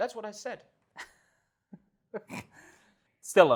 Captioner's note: laughs